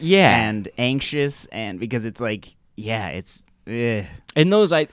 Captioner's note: disgusted noise